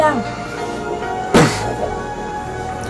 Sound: Benny clears throat

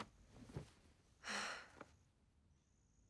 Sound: sighs

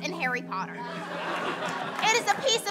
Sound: laughing

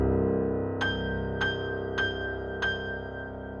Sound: none

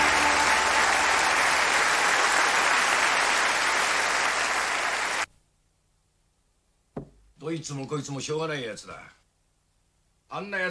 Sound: applause

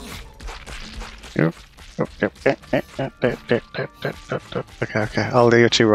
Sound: happy noises

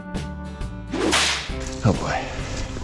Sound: swoosh sound effect

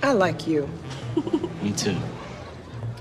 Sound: Jemma laughing

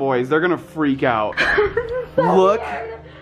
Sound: chuckling

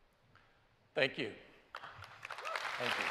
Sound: applause

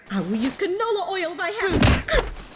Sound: thud!

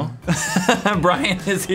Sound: laughs

